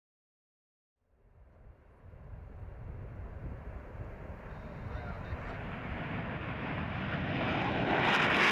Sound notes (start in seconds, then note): 1.7 distant jet engine, nearing; 4.2 unintelligible radio chatter